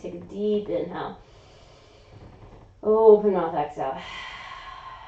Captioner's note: inhaling; exhaling